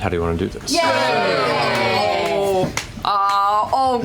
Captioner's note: cheering